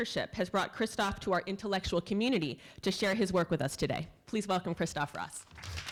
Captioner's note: applause